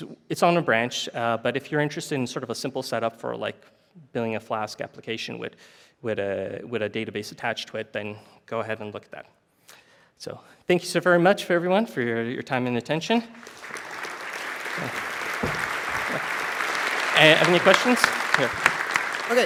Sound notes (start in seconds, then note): 13.3 applause